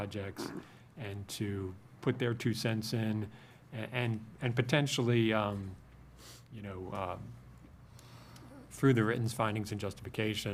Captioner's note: snorts